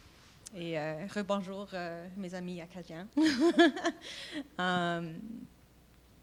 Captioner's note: speaking French